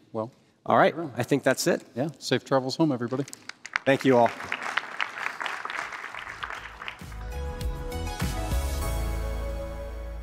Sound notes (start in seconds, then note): 3.2 applause